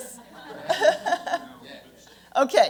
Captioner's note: laughter